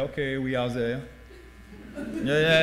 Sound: laughing

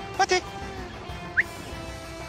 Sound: whistles

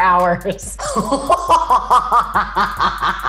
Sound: laughs

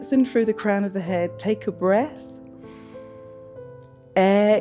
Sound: inhales

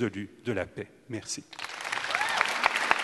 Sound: applause

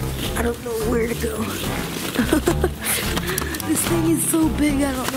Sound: laughs

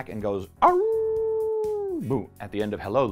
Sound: wolf howl

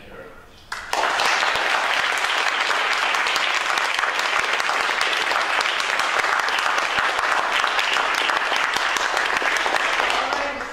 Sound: applause

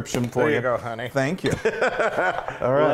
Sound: laugh

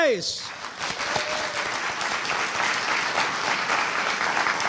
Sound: audience applauding

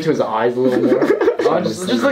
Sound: giggles

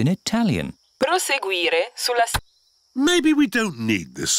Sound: sat nav talks in italian

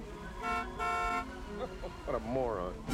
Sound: honking

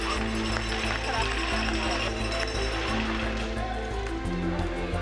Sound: cheering

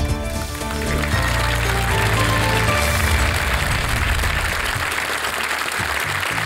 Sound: applause

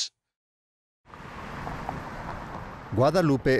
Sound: car engine roaring

